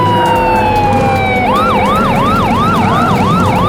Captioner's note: siren wailing